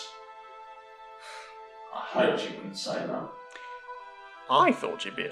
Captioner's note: sighing in annoyance